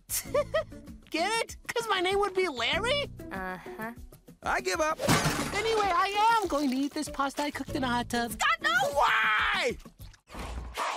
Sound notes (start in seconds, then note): 0.1 laughs; 5.0 crash